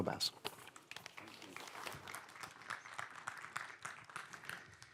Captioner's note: applause